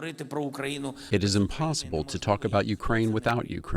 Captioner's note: through translator